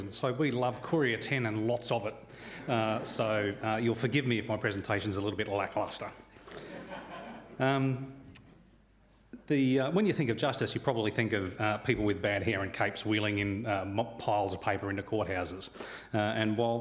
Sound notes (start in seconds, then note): 6.4 audience laughs